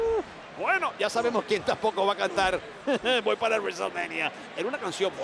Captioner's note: laugh